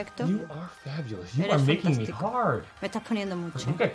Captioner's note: speaks in english